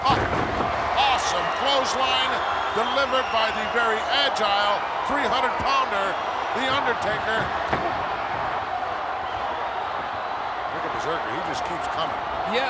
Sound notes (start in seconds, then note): 8.1 audience applauding and cheering